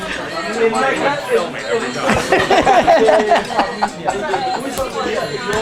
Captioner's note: group laughter